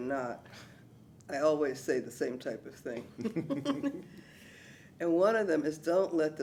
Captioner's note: laughs